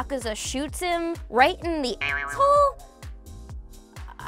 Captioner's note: spring bouncing